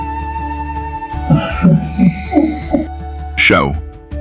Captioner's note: chuckles softly